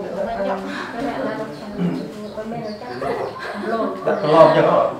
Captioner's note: chattering